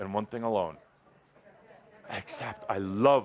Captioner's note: audience says, “Accept.”